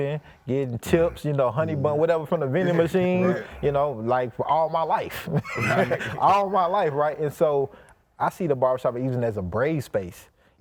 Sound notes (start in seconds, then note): 5.0 laughs